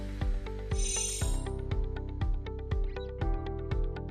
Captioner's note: chiming